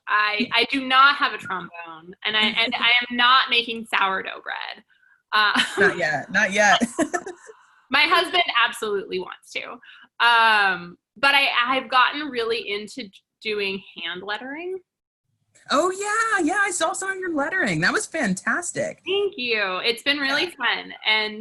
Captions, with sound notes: I do not have a trombone. I am not making sourdough bread (laughs). - Not yet, not yet (laughs). - My husband absolutely wants to, but I have gotten really into doing hand lettering. - Oh yeah, yeah. I saw of your lettering. That was fantastic. - Thank you. It's been really fun.